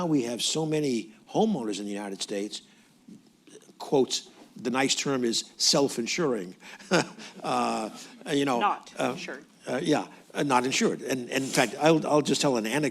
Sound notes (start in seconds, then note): 7.6 laughs